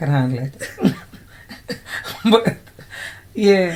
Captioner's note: laughter